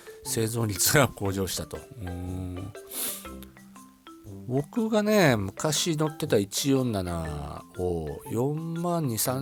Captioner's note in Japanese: 鼻息